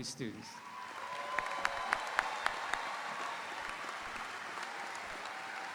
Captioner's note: audience cheering; audience applauding